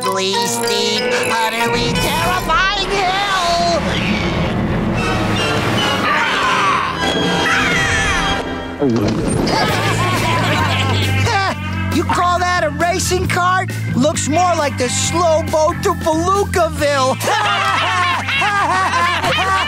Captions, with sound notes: steep utterly terrifying hill! [squawking] [gulping] [laughing] Ha! You call that a racing cart? Looks more like the slow boat to Belucaville! [laughing]